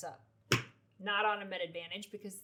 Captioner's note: hands clomp on desk